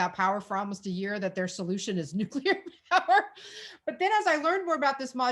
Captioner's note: chuckling